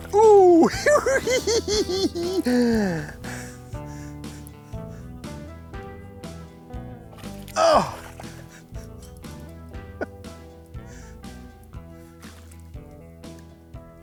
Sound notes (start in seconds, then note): 0.4 giggles; 7.4 yells; 7.5 laughs